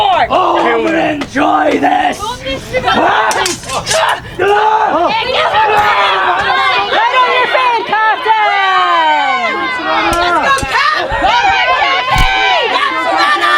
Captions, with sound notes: - Oh, I'll enjoy this! (both grunting) (audience jeering)